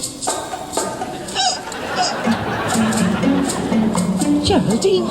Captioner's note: suspicious music; groaning in pain